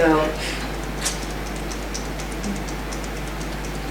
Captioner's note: tapping